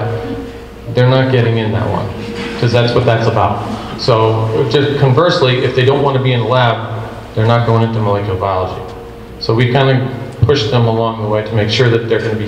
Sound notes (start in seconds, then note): 4.0 group laughs